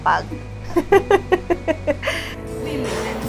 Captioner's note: laughs